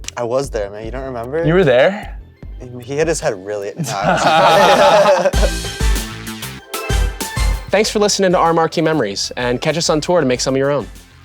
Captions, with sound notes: - I was there, man, you don't remember? - You were there? - He hit his head really... No, I wasn't there. (all laughing) - Thanks for listening to our Marquee Memories, and catch us on tour to make some of your own.